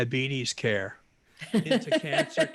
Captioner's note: laughs